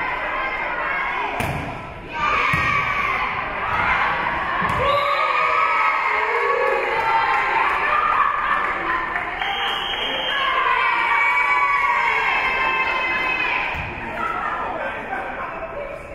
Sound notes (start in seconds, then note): 0.1 spectators shouting encouragements; 4.9 spectators cheering; 4.9 whistle being blown; 5.5 spectators cheering and applauding; 9.4 whistle being blown; 10.8 spectators cheering